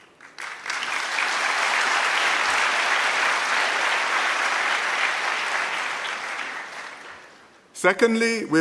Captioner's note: applause